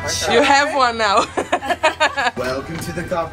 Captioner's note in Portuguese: risos